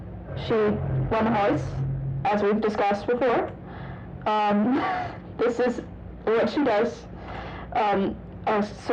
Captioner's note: wheeze